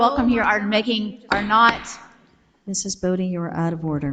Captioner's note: gavel taps